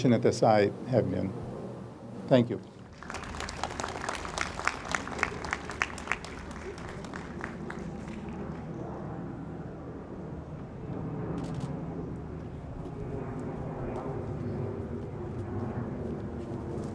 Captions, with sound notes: as I have been. Thank you. (audience applauds) (camera clicks)